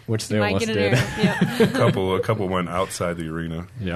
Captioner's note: laughing